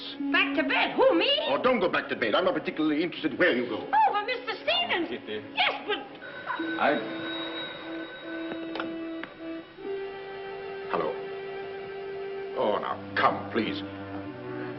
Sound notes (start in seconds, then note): 8.7 phone rings